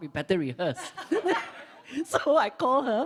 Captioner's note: laughs